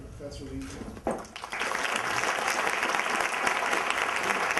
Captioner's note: applause